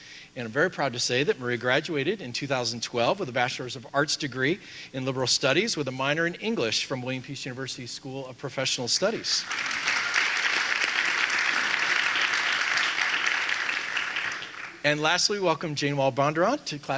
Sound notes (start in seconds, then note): 9.1 audience applauding